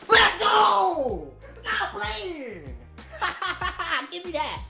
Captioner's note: laughs